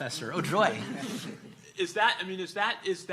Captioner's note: laughing